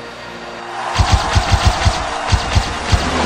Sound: crowd applauds

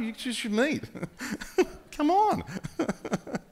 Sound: laughing

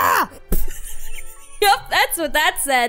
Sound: laughing

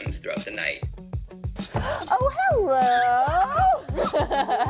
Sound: laughing

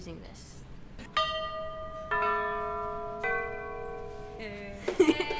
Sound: bells chime

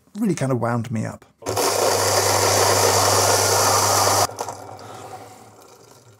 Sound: coffee grinder rasping

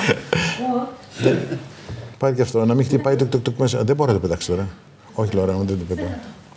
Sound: speaking in foreign language

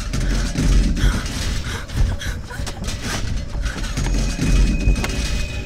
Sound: loud shaking sounds

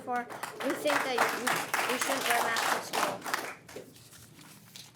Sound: audience clapping

